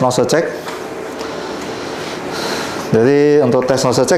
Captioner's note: inhale